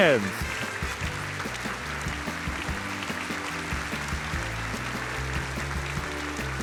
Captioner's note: audience applauding; cheerful music